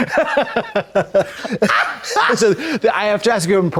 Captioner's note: blonde Women hoot and holler